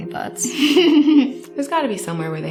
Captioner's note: Esther laughs